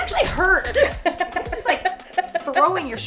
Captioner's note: laughing